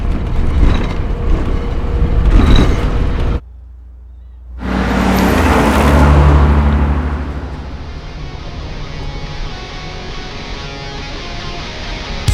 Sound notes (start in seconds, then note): 4.7 truck engine rumbles; 8.0 upbeat instrumental rock music